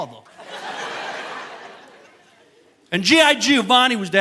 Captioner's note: audience laughing